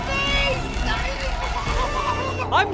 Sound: gurgling

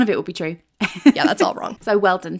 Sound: laughing

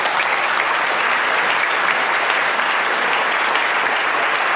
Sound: clapping

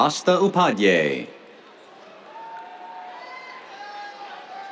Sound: cheers

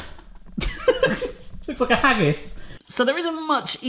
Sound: laughs

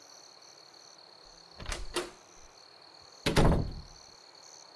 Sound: crickets chirp; A door opens and closes

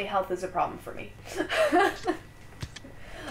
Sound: laughter

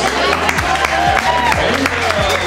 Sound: applause

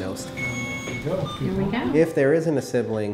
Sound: medical equipment peeping

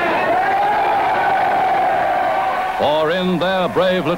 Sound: crowd cheering

